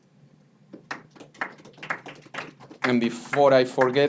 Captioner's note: attendees applauding